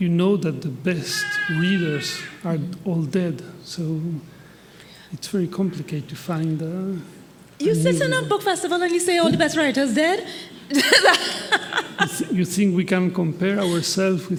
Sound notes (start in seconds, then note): 10.5 laughing